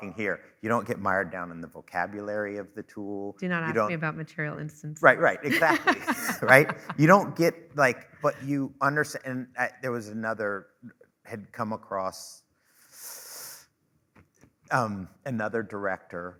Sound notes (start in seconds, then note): 5.2 laughing